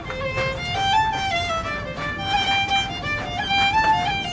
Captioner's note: footsteps in tunnel